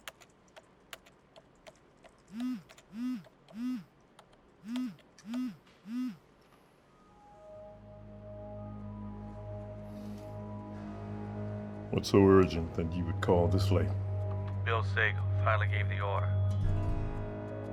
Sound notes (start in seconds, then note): 2.7 phone buzzing; 8.0 ominous music